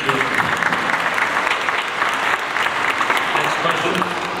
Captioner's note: audience applauds